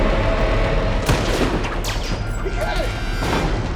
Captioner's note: shot firing